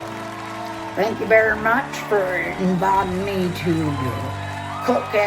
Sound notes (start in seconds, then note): 0.0 applause & Cheering; 0.6 southern "Hillbilly" Accent